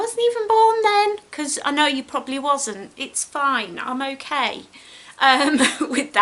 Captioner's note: giggles